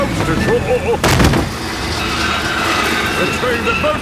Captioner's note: thud